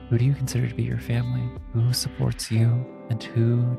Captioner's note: none